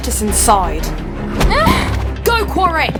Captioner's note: Mare cries out